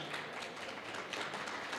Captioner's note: clapping